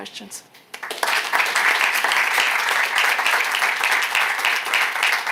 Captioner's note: applause